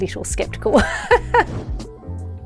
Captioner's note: laughs